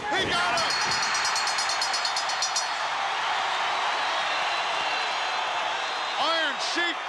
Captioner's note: crowd cheers; bell rings